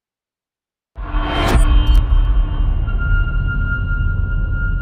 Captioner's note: dramatic sound